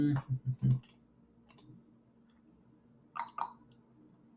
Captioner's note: keyboard clicks